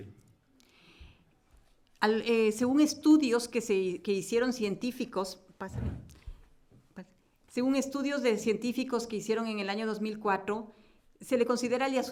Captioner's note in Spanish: Español